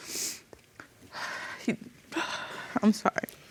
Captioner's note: sobbing